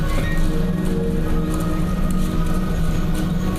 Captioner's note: none